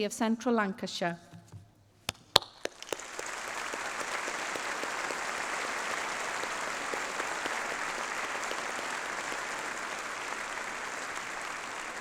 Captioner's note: applause